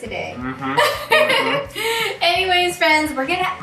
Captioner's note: laughs